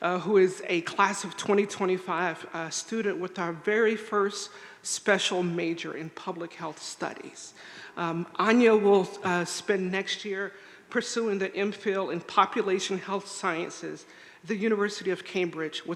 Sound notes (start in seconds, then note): none